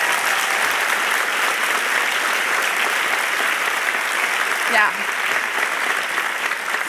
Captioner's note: cheers and applause